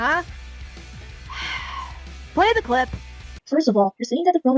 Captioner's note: sighs